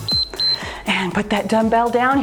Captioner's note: timer beeps